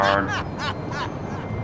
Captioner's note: maniacal Laughing